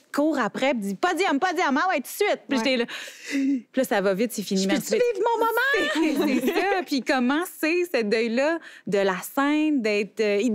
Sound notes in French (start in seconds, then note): 2.3 manque de souffle